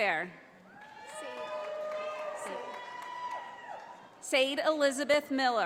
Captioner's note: audience applauding